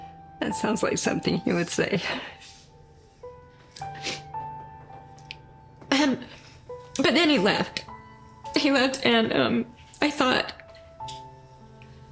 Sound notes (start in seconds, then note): 3.8 sniffles